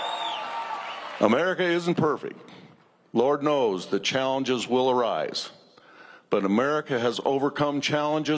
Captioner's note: cheers and applause